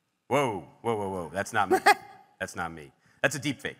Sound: host laughs

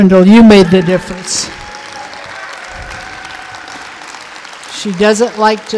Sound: audience applauding

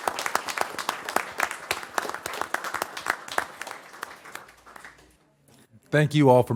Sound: applause

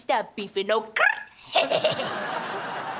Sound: laughing

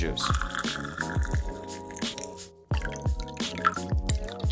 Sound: pouring liquid

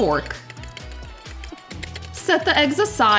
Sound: whisks fork

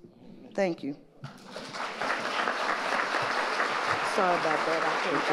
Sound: audience applauding

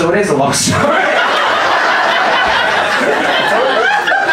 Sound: audience laughs

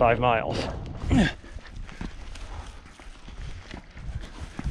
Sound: grunting

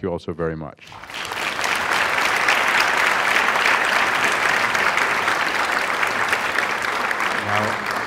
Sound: applause

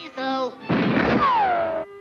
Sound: gunshot, ricochet

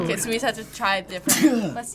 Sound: sneezes

